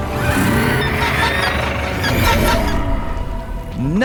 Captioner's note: screeching